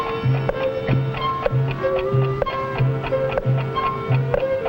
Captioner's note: light music; clock ticking